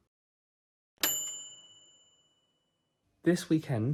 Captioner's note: bright bell dinging